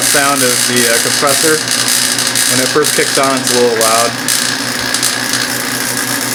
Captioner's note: vacuum pump